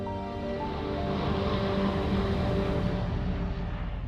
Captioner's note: jet engine roaring